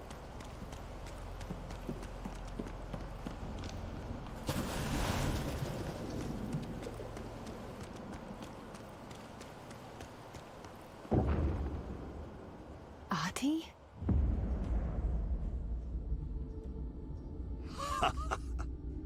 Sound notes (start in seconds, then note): 4.4 jumps into water; 17.7 laughs